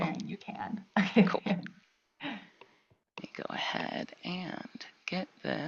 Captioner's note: laughing